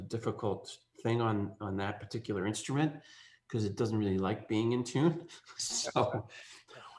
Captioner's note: laughs